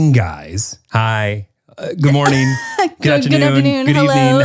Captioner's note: chuckles